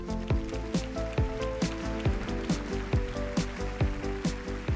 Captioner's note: applause